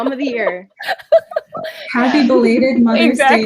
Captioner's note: laughs